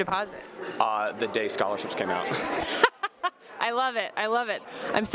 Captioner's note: laughs